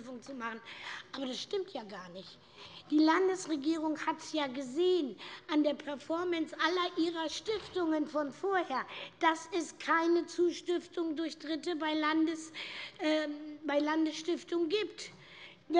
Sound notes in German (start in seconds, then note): none